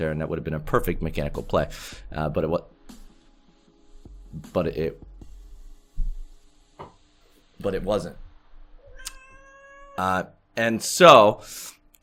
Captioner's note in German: miau